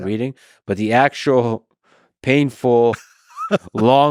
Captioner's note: laughs